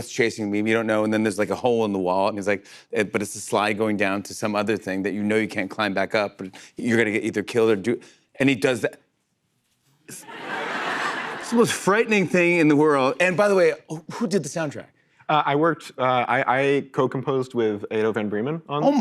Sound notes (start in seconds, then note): 10.1 laughter